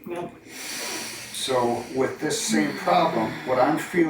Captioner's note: sighs